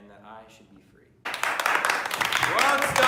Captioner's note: cheering